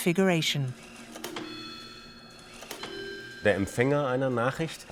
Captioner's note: machine chiming; speaks foreign language